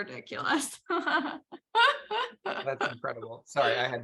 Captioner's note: laughs